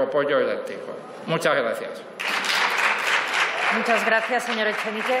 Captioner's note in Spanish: Aplausos